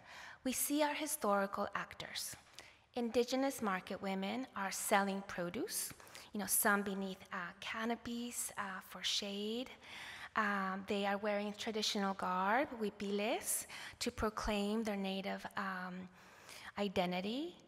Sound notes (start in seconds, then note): 13.0 non english